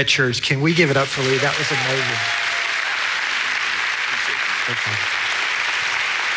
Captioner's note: congregation applauds